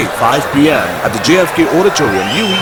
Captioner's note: wild applause and cheering for 22 seconds